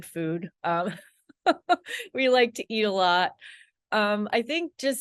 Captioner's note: laughs